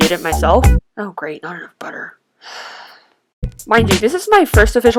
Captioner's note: sigh